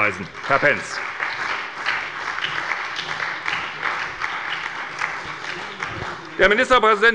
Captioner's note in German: Beifall bei der SPD